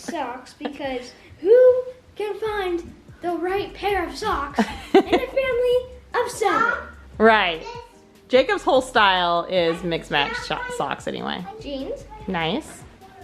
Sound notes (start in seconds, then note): 4.6 laughing